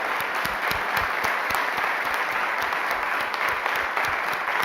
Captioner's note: applause